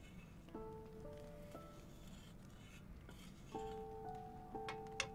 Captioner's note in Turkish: Karıştırma sesi